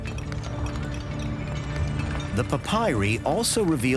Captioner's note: hammers clanging